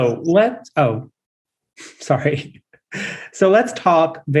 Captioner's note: laugh